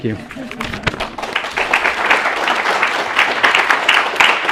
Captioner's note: clapping